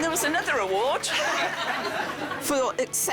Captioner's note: laughter